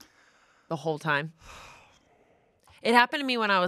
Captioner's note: sighs